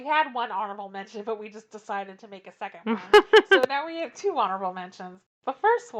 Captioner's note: laughs